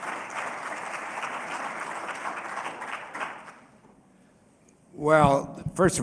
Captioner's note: applause